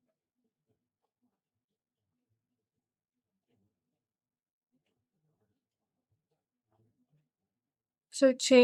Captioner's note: silence